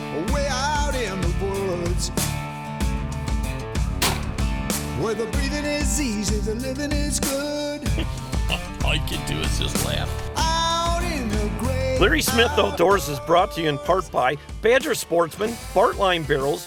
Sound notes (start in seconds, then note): 4.0 gun fires; 7.9 chuckles; 12.3 voiceover